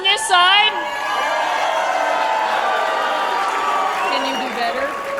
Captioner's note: cheering